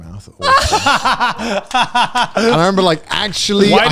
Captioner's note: laughing, clapping